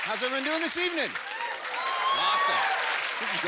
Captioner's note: cheering